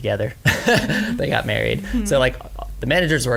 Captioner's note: laughs